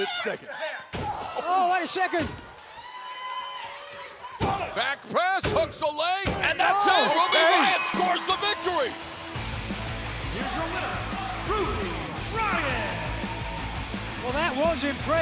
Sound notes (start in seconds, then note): 7.0 bell ringing